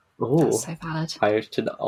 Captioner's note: laughing